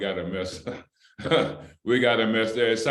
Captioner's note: laughter